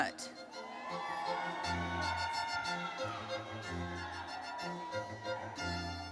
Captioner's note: audience cheering and applauding; orchestral music continues